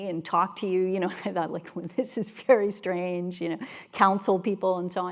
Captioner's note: laugh